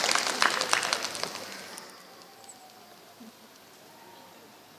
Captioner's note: applause